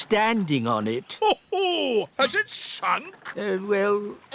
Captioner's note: laughs